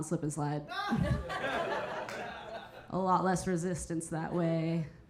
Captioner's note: audience laughing